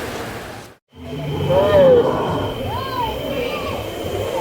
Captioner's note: dinosaur sounds